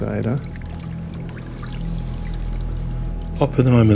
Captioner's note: water trickling